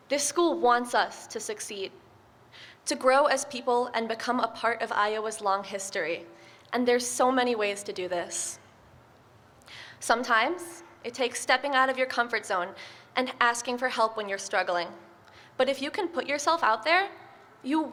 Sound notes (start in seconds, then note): none